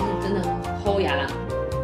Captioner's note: Taiwanese